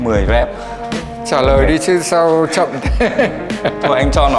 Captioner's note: laugh